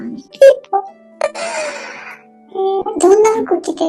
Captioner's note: laughs